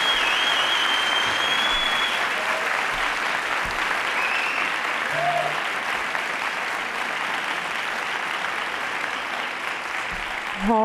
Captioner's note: applause